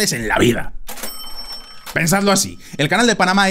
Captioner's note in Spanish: sonido caja registradora